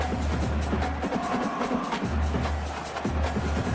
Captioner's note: crowd Noises